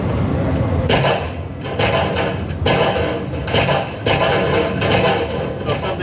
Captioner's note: wood splintering; steady gunshots